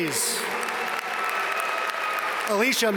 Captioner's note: audience cheer and applaud